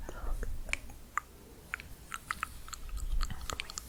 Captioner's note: tongue clicking and bubbling